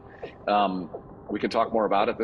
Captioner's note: pile driver humming